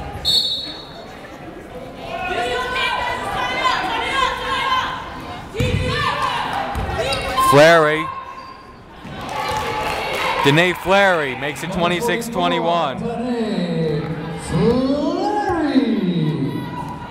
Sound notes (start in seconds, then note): 0.2 whistle blowing; 3.2 yelling